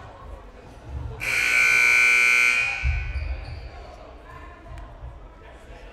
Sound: loud buzzer blaring

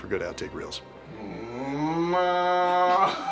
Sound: agressive. Mooing

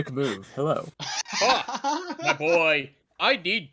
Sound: laughs

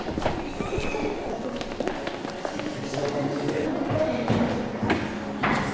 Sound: students chattering

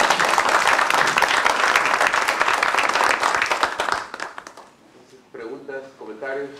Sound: aplausos

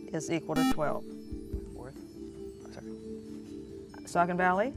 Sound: buzzer

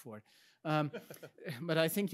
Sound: laughs; chuckles

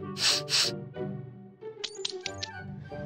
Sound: sniffs

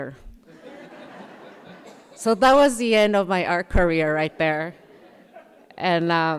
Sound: laughter

